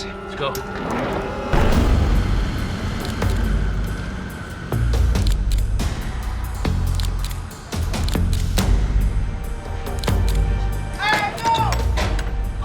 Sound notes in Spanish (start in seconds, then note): 6.9 Clic de la cámara; 11.1 Gritos